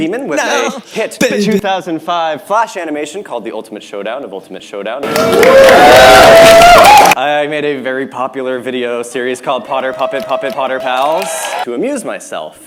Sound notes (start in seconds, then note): 5.0 very loud applause